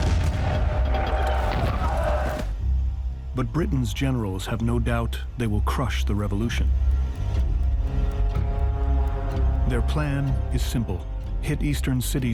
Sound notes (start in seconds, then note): 0.0 cannon firing